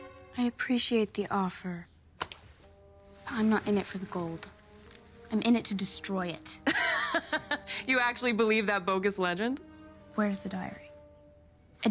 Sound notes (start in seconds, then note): 6.6 chuckles